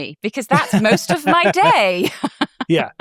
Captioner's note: chuckles